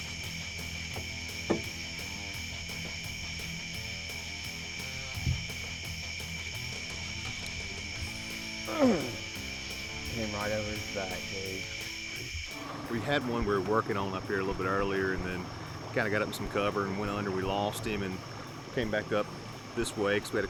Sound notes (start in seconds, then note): 0.1 upbeat rock music; 8.6 frustrated grunting